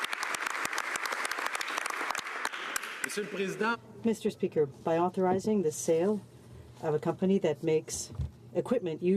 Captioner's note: applause